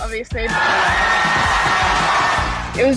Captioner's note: cheering